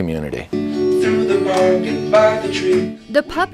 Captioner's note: hands clapping with music